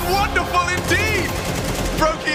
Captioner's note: gun firing